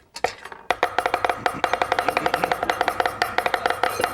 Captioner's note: knives chopping